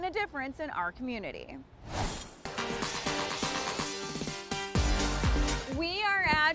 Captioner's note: logo whooshing; upbeat music begins